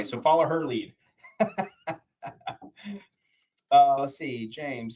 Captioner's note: laughs